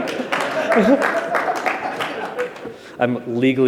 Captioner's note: applause; laughter